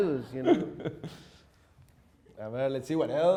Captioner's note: chuckles